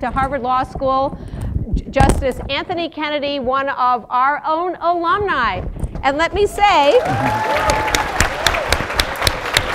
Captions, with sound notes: to Harvard Law School, Justice Anthony Kennedy, one of our own alumni, and let me say-- [APPLAUSE]